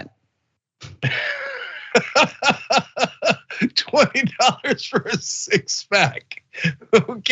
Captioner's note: laugh